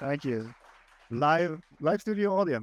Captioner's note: audience clapping